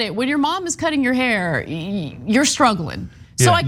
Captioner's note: laugh